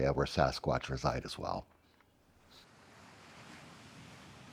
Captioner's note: sea roaring